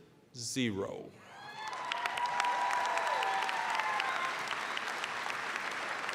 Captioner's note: applause, cheering; applause